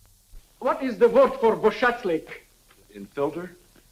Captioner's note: speaking in foreign language